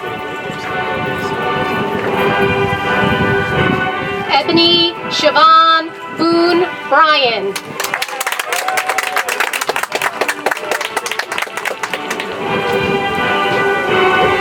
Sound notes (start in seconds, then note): 7.5 audience applauds; 11.9 soft music